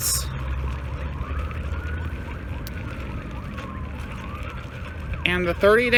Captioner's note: sirens wailing